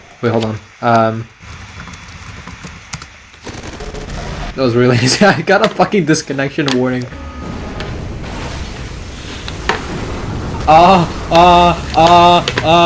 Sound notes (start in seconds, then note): 2.2 typing; 6.9 loud rumbling and crashes